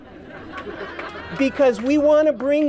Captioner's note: laughter